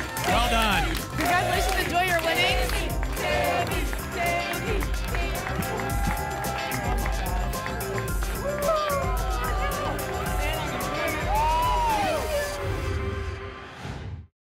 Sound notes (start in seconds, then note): 0.0 audience chanting "tammy!"; 3.6 audience chanting "tammy!"; 6.2 applause and cheering cont; 12.3 whoosh